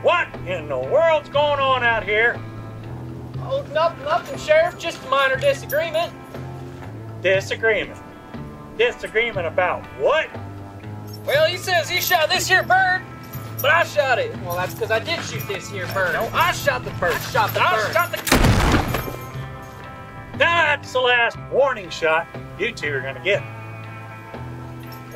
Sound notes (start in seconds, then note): 16.2 arguing; 18.3 shotgun